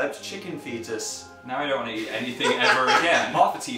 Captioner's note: laughs